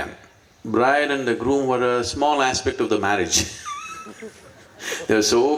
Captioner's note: laughs